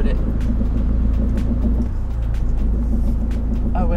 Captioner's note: horrible knocking noise